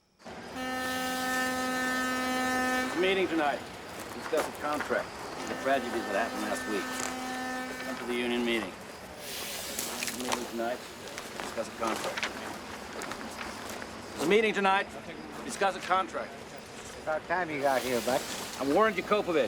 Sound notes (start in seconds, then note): 1.0 horn blasting